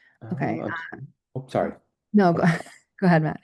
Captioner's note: chuckles